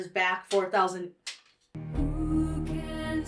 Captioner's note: paper rustles to the floor